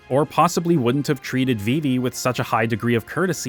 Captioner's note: none